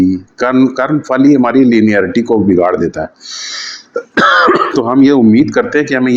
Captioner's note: sound of clearing throat